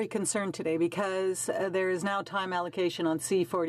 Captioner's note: speaking french